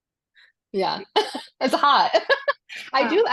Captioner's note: laughs